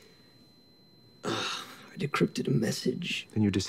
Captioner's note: high-pitched ringing